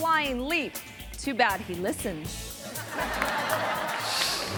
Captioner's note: audience laughing; screen whooshes